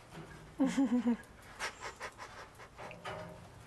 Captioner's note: laughs